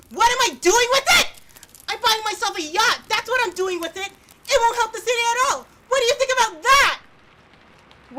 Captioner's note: fire Noises fade out